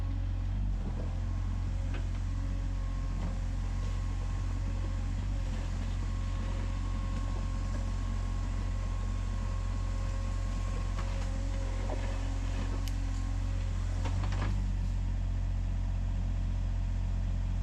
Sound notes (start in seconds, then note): 5.0 machinery whirring